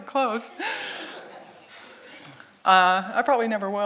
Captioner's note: audience chuckles